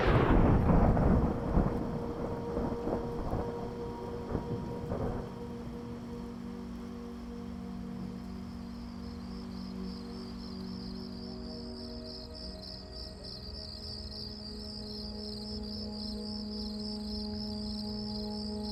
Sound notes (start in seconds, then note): 0.0 lightening crashing; 9.3 crickets chirping; 11.4 tense music